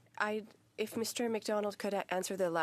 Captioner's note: speaking French